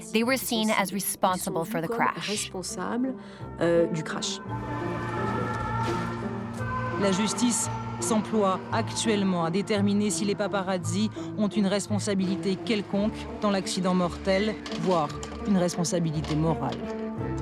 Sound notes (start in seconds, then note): 7.1 speaking foreign language